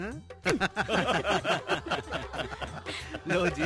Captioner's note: laughing